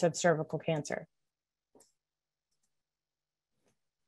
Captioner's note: silence